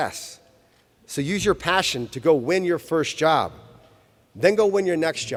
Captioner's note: none